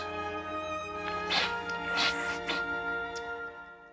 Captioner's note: sniffing